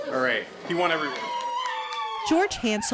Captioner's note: cheering